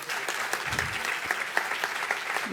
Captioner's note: applause